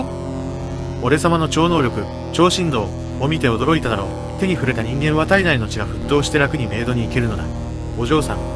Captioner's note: super vibration